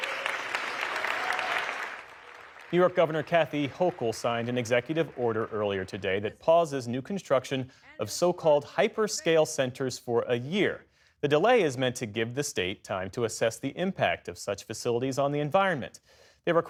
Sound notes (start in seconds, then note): 0.0 cheering